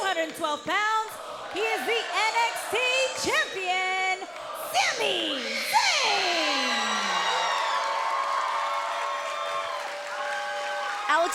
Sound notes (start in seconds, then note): 4.6 cheers and applause